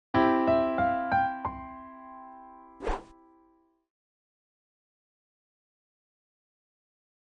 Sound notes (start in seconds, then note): 0.1 piano music intro playing; 2.8 whooshes